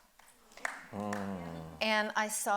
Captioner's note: audience applauding